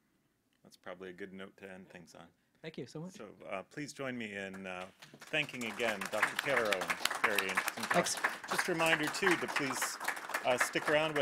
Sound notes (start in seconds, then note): 4.6 audience applause